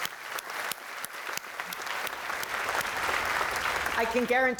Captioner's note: applause